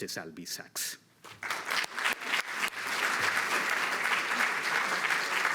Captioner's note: audience applauds